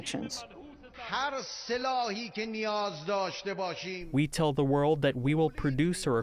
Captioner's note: through translator